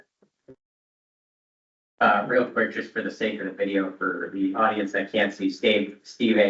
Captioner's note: laughing